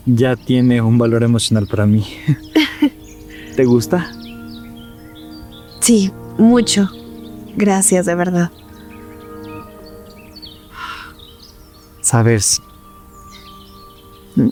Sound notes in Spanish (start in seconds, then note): 2.5 risas